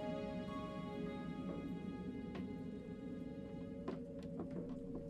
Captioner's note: wind howling